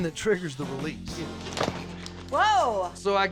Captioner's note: thud